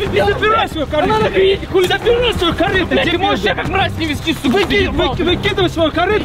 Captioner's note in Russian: ругаются